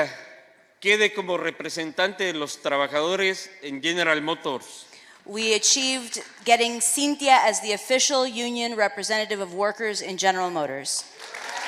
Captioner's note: speaking spanish; applause